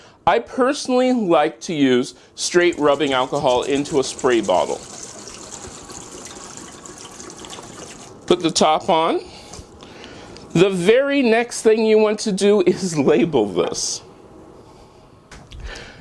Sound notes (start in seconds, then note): 4.9 pouring sound